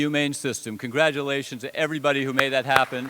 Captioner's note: applause